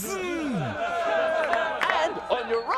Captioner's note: crowd cheering